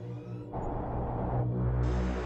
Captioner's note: wind blowing